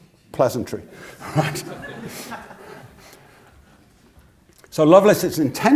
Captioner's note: laugh